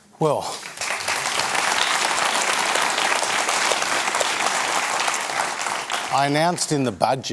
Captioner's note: applause